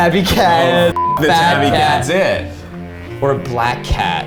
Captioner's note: beep